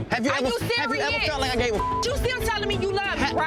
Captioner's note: beep